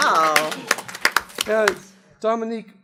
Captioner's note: applause